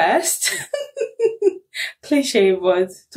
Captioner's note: laughs